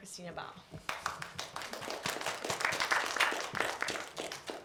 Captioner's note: applause